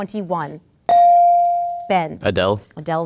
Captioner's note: ding